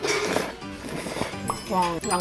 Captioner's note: slurp